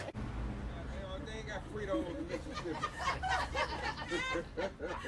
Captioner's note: indistinct chatter